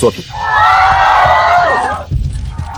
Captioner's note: cheering sound